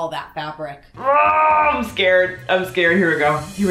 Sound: sighs

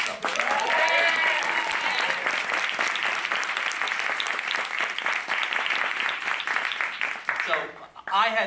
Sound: applause

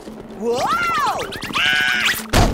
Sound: screaming

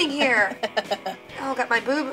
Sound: laughter

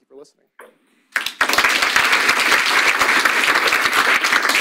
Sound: audience applauds

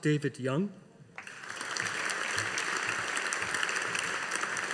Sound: audience applauding

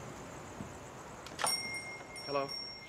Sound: doorbell chimes

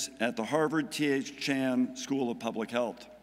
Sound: none

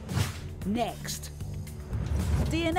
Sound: voiceover

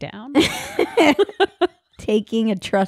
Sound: laughing

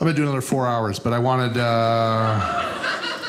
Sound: audience laughing

